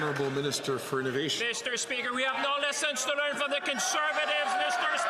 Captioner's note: some Applause